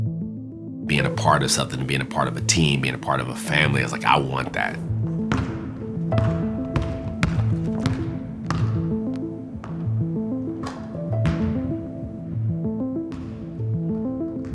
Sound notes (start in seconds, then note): 5.8 ball thunking